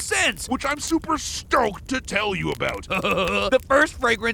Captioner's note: laughs